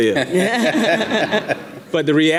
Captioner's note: audience laughing